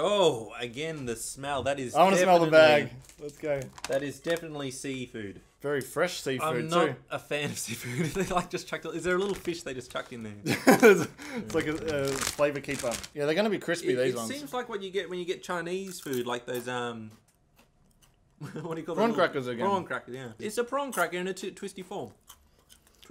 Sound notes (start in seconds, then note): 10.5 laughs